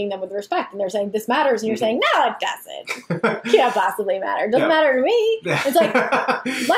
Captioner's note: laughs